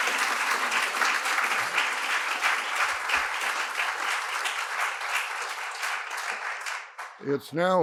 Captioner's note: applause